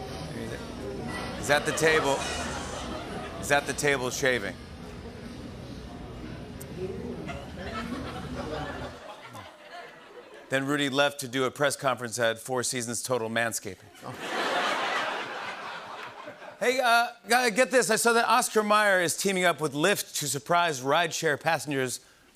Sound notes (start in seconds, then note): 1.3 laughter; 7.2 laughter; 13.9 laughter